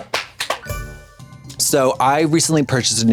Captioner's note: bright chime